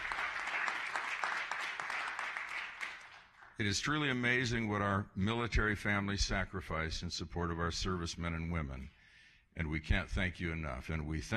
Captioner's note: applause